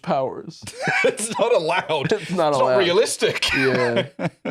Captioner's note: laughing